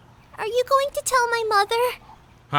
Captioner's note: none